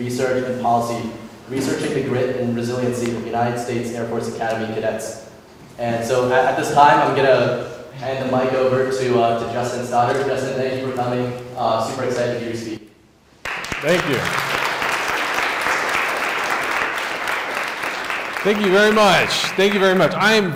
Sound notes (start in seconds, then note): 15.6 audience applauds